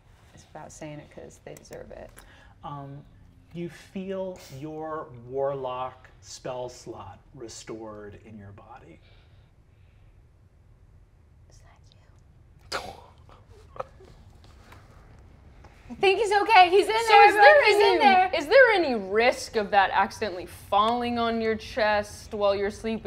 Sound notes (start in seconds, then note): 11.8 whispers; 13.3 laughs